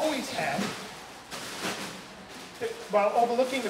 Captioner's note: loud rustling